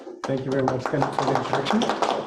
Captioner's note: audience applauding